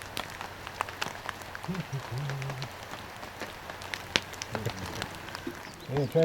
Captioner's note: laughter